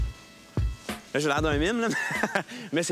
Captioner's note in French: rire